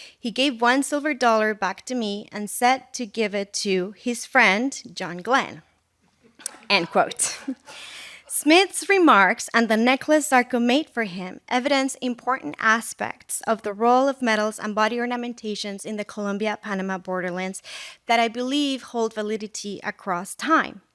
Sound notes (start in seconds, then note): 6.3 laughter